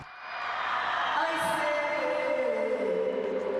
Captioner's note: audience shrieks